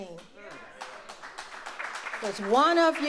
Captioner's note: audience applauds